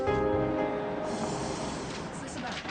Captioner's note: car engine whirs